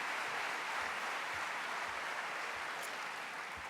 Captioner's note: applause